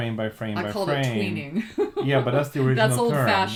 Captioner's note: laughs